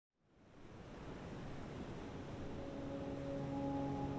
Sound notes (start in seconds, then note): 0.7 waves crashing; 2.2 airy pensive music